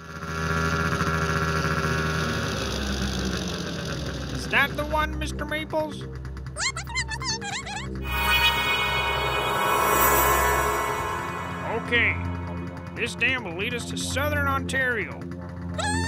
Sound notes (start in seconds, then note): 6.6 affirmative squeaks